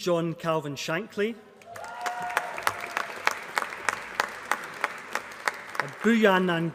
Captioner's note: applause